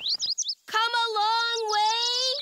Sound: birds chirp

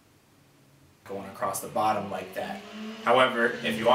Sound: motorcycle noise

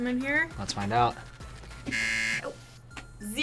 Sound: buzzer rings

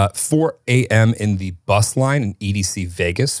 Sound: none

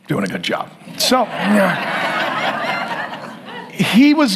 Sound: audience laughs

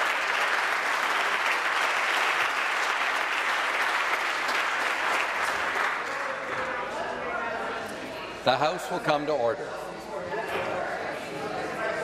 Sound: applause

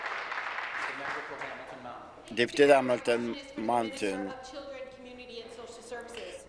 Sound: applause

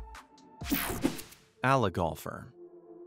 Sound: screen whooshing

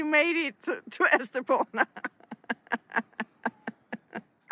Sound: laughter

